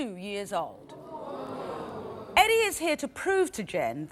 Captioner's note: audience groans